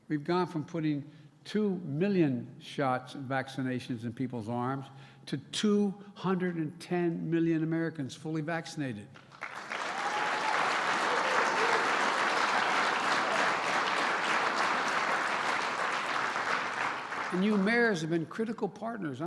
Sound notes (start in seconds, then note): 9.1 applause